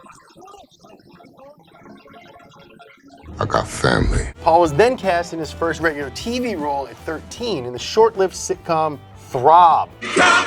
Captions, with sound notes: (man groaning) - I got family. - Paul was then cast in his first radio TV role at 13 in the short lived sitcom "Throb".